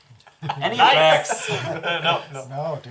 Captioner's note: all laugh